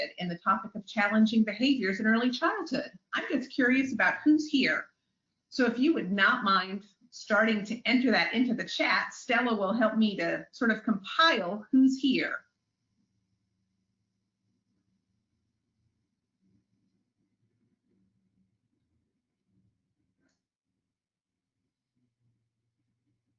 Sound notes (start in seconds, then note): 17.6 silence